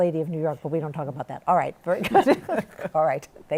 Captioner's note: both laugh